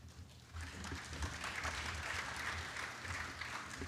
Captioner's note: applause